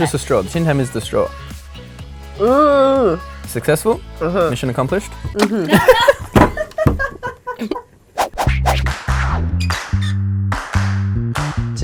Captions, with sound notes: - It's just a straw, sometimes use the straw. Successful. Mission accomplished. (laughter) (air swooshes)